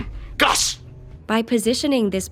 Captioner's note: shouting